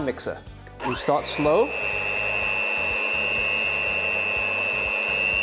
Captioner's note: hand mixer whirring